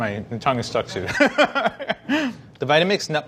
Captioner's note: laughing